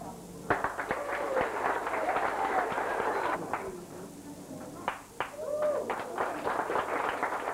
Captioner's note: audience applause